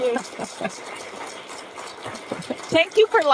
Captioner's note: audience clapping